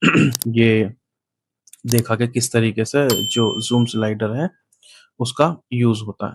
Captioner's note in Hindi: गला साफ़ करने की आवाज़